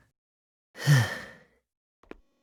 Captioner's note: weary sigh